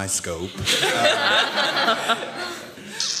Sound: laughter

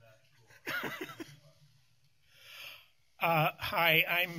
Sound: laughter

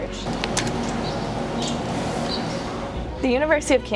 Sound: sound of typing on a keyboard

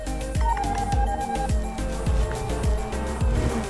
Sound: phone beeps

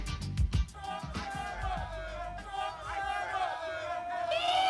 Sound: crowd clamoring

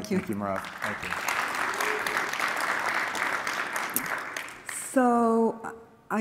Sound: applause

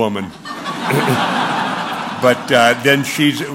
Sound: laughter

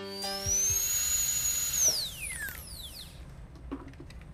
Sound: sound of dental drill

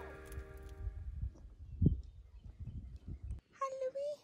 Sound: ambient outdoor noise

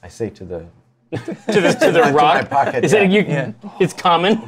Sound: laughter

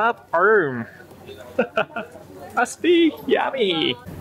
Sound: chuckles

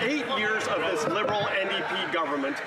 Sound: some Applause

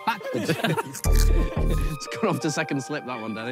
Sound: players laugh

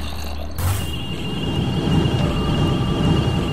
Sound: energy Sounds

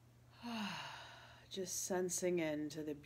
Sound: exhaling

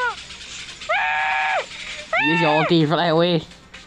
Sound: the cries of a dying solider; the cries of a tormented solider

